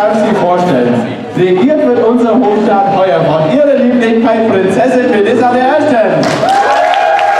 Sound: applause

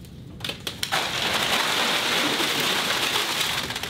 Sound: crash and loud rustling

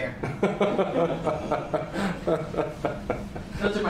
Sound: laughs

